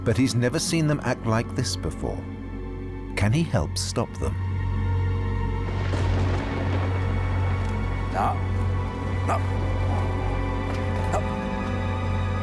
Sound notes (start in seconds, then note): 5.6 thunder crashes